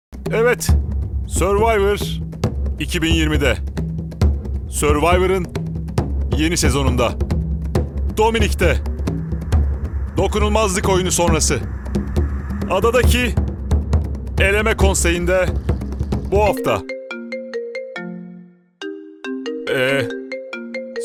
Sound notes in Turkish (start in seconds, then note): 16.6 telefon çalıyor